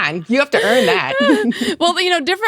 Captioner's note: laughs